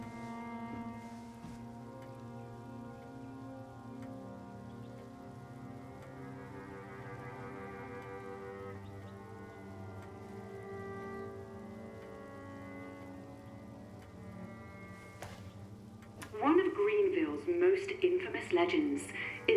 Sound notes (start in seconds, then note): 0.1 somber music continues; 8.5 somber music continues; 16.2 button clicks